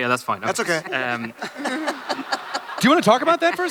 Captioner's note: audience laughter